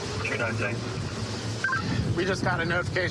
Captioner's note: radio communication